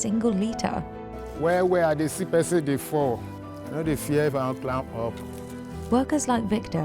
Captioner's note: speaking in foreign language